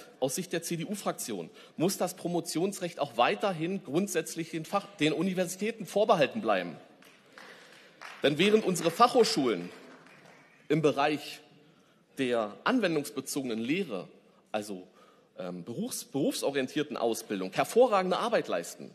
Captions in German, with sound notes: Aus Sicht der CDU-Fraktion muss das Promotionsrecht auch weiterhin grundsätzlich den Universitäten vorbehalten bleiben. (Beifall) Denn während unsere Fachhochschulen im Bereich bei der anwendungsbezogenen Lehre, also berufsorientierten Ausbildung, hervorragende Arbeit leisten,